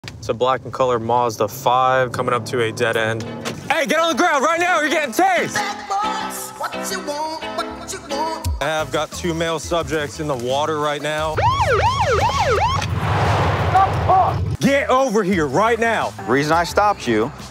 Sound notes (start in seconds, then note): 11.3 sirens